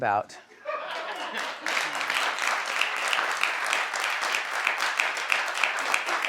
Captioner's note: audience laughs and applauds